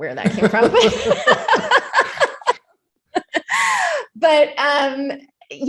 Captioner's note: laughing